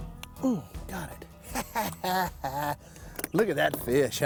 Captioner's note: chuckles